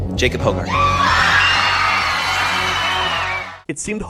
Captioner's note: cheering